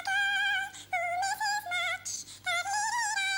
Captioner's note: humming